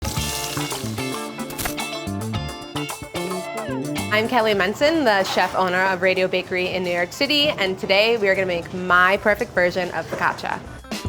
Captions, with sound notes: [oil sizzling] [upbeat music] - I'm Kelly Mencin, the chef/owner of Radio Bakery in New York City and today we are gonna make my perfect version of focaccia.